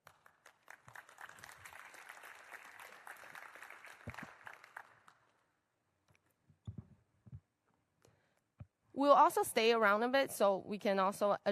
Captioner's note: applause